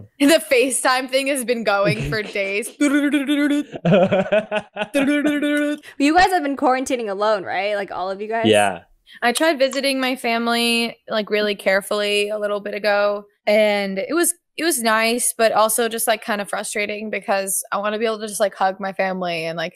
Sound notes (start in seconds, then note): 2.7 FaceTime calling noise; 3.9 laughs